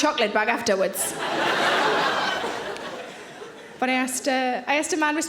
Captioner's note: audience laughing